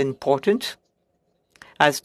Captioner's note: speaking French